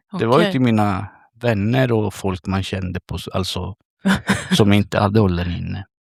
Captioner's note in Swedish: skratt